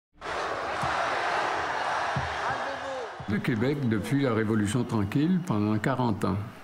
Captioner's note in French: applaudissements